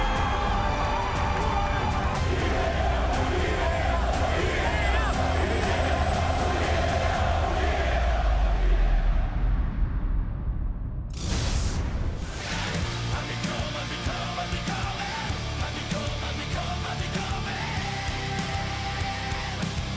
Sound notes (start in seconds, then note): 4.3 fans chanting